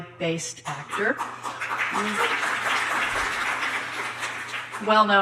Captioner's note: audience applauding